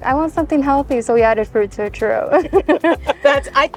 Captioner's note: chuckling